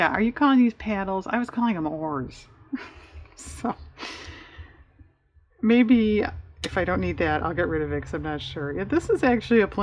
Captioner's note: laughs